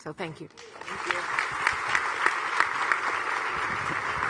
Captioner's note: audience clapping